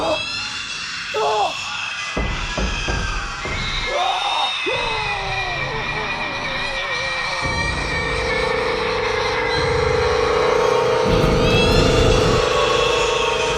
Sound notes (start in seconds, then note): 4.7 Mya shrieking; 4.7 The Patriarch shrieking; 8.4 Mya shrieking; 8.4 eerie music